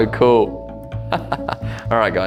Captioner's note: laughing